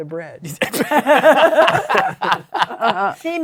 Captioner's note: laughter